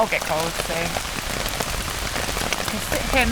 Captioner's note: rain